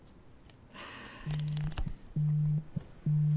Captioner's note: phone buzzing; soft music